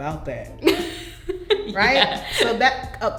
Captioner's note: laughs